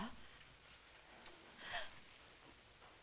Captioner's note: gasping